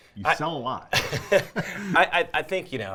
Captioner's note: laughter